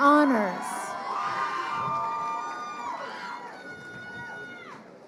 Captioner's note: crowd cheering